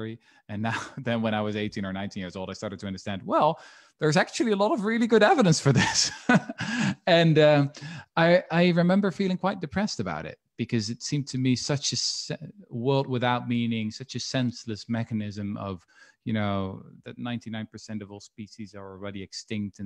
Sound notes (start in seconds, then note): 6.1 laughs